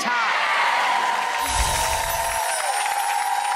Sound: crowd cheers

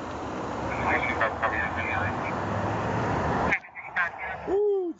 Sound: radio chatter

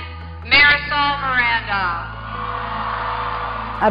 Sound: applause

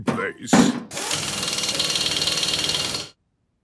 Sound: drilling

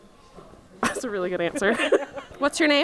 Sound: laughs

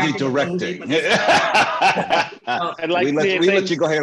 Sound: laughter

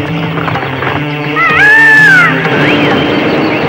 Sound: peacock screams

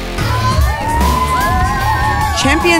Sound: cheering

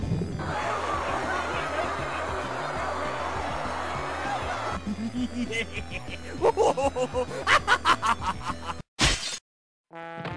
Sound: laughing

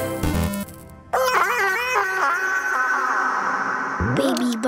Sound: screams

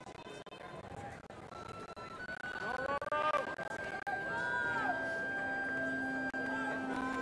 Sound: indistinct chatters; gentle music

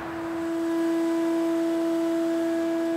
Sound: monotonous machine noise

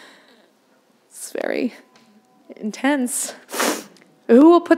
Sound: sniffing

